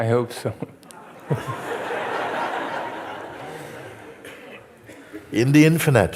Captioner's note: Lachen